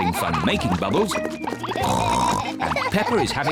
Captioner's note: oinks